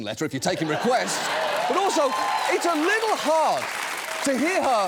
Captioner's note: audience cheers, applauds